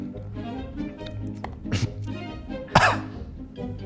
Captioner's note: coughs